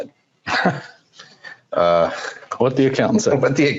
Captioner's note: laughing